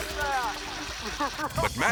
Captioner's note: both laughing